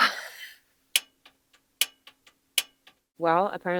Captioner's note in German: seufzt; Gas klickt